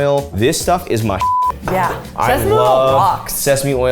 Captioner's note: beep